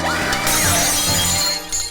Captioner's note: glass crunching; Margaret screaming